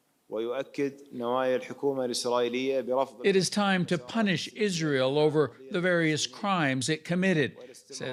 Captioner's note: speaking alternate language